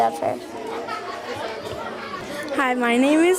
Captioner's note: students chattering